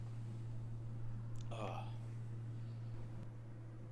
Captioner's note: groans